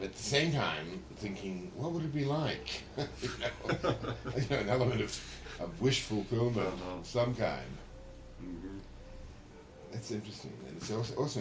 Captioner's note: laughter